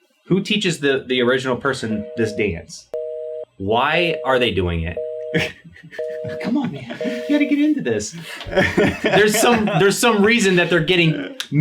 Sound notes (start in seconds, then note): 4.5 disconnected tone beeping; 8.1 laughs